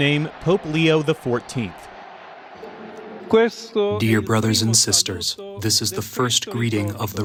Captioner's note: through translator